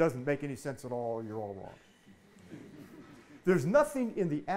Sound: audience laughing

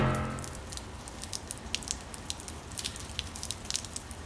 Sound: rain pattering

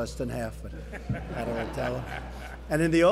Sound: laughter

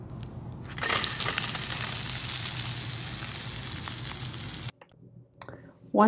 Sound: pan sizzling

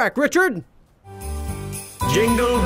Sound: bells chiming

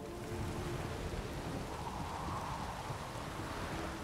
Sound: wind, rain

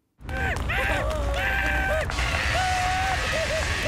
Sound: all screaming in panic

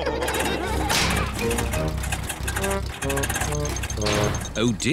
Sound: all laugh; engine sputters

